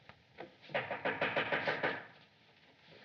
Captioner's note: knocking